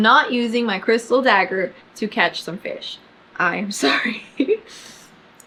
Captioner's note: laughs